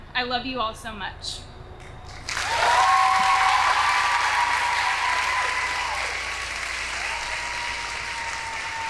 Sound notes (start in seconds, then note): 2.2 audience applauding